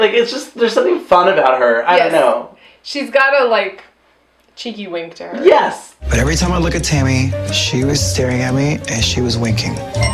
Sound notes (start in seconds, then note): none